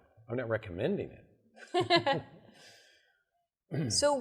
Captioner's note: chuckles